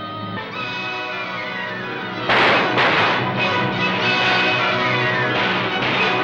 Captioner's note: dramatic music; gunshots firing